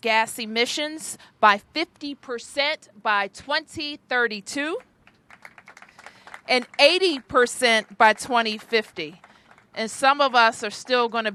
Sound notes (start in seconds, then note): 5.0 applause